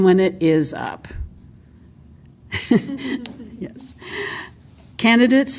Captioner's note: laughter